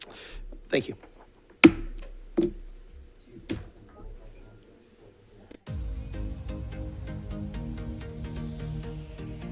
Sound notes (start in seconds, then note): 2.8 group chatter; 5.6 soft upbeat music